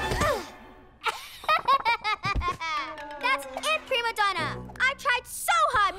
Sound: mocking laughter

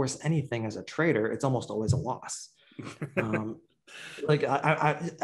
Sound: laughs

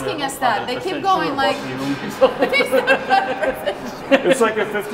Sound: group laughing

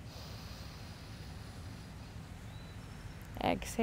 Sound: inhales deeply

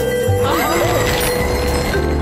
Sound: gasping

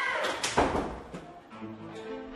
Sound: restroom door closes

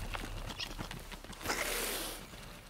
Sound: possum hisses angrily

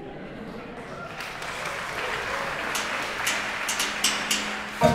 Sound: applause

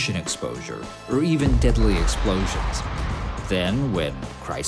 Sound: bomb exploding

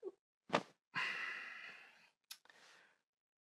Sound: thump; he sighs

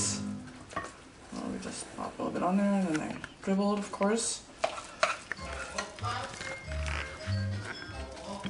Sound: scooping rice onto the plates and mumbling

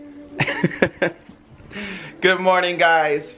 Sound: laughing

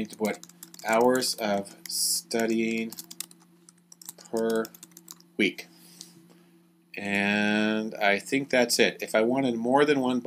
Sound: typing

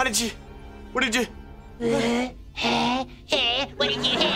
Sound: grunting

